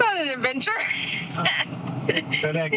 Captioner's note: laughing